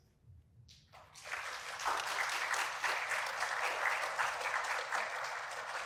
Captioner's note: audience applauds